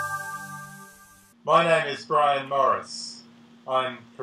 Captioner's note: upbeat music; voiceover